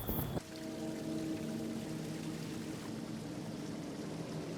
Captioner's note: rapids footsteps; water splashes